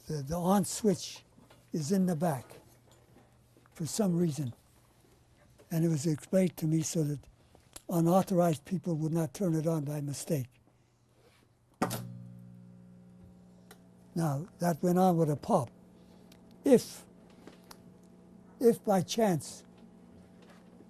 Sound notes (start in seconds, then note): 11.8 pauses for 3 seconds